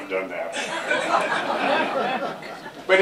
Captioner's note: laughter